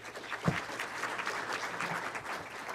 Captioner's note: clapping